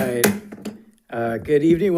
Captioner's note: gavel bangs